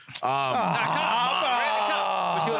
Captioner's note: laughing